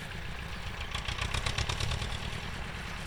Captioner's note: tractor engines